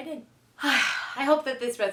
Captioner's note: sighs